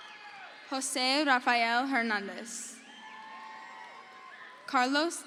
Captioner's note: crowd cheers